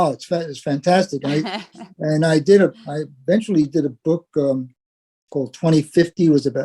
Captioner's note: laugh